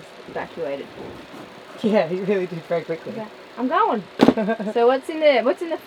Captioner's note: background chatter